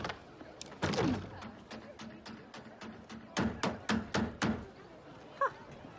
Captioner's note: hammering